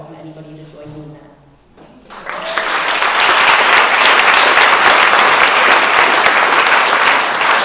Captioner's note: applause